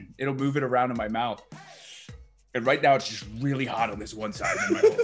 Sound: laugh

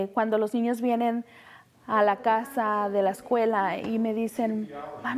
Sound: speaking Spanish

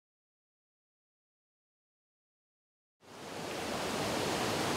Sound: sound of water rushing over dam

